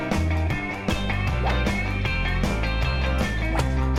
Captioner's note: whooshing